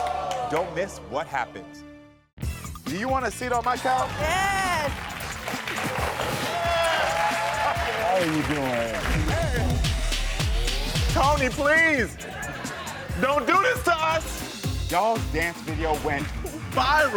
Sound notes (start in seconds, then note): 3.5 audience cheering; 12.2 audience reacting